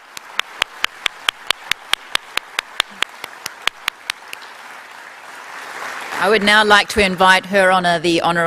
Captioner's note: applause